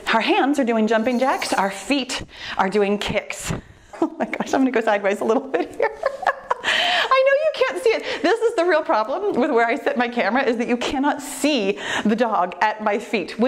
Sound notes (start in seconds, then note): 4.5 laughs; 5.6 laughing